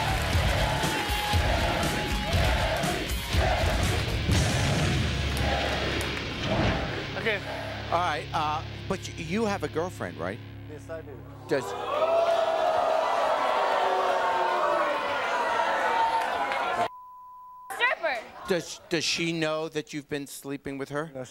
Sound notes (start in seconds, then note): 0.0 audience cheering; 0.0 edgy music; 11.4 audience jeering; 16.9 beep